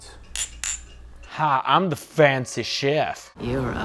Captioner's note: southern accent